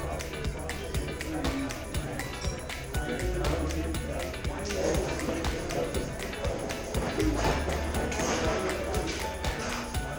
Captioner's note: casual banter